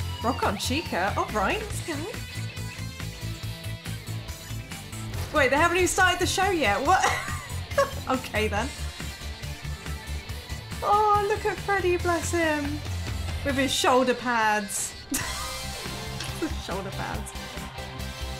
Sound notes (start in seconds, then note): 15.0 laughing